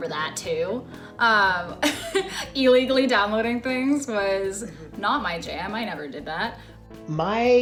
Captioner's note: laughs